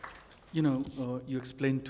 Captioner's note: applause